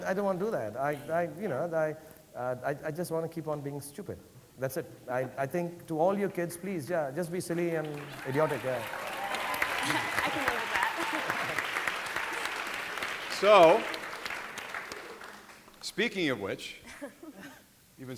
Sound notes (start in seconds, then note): 9.0 audience applauding